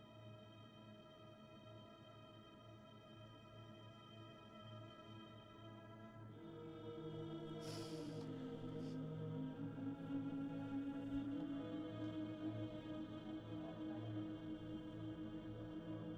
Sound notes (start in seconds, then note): none